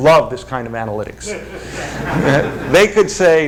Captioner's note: laughter